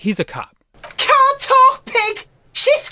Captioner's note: Delightfully grating Cuno